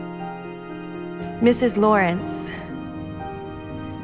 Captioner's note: voiceover